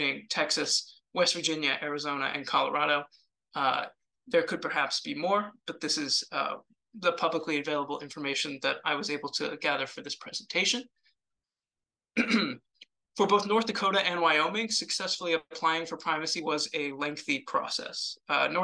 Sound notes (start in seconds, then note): 12.2 throat clears